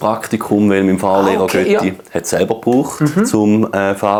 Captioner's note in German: Schweizerdeutsch